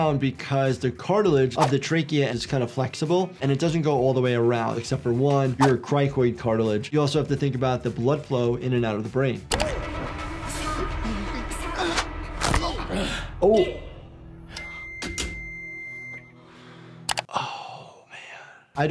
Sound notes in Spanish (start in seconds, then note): 9.7 locutor hablando en coreano; 12.5 hueso crujido; 13.7 El locutor habla en coreano; 14.4 suena la alarma; 15.0 clics de la cerradura de la puerta